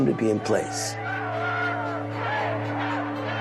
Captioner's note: crowd noises